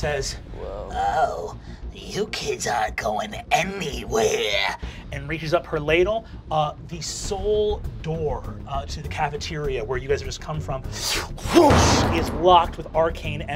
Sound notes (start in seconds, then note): 11.5 door slamming